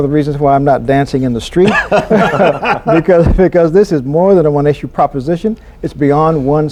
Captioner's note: laughter